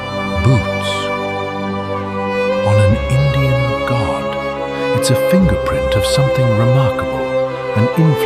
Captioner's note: thoughtful